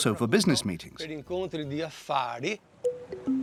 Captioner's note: Italian spoken audio